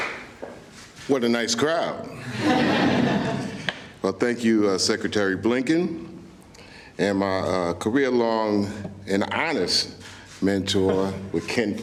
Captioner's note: laughter